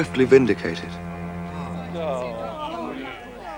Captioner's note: all exclaiming